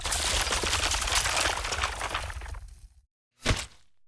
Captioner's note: concrete crumbling